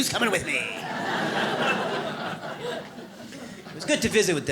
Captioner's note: audience laughs